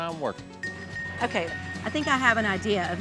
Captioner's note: cowbell ringing